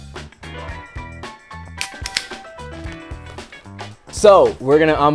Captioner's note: can snaps open